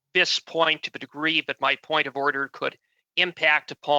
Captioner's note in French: voix de l'interprète